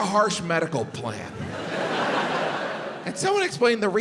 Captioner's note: crowd laughs